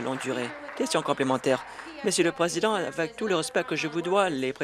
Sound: applause

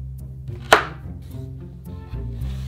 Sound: knife chopping

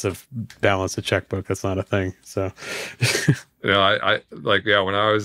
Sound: chuckles

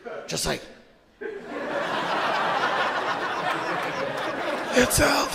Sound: audience laughing

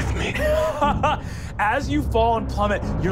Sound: laughing

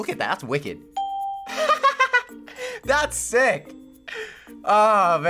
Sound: ding; laughs

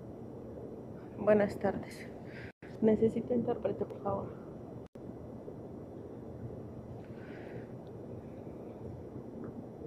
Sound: speaking Spanish

